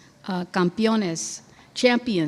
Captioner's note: speaking in foreign language